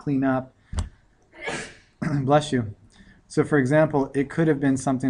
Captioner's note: sneeze